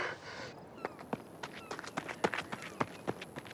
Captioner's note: seagulls cawing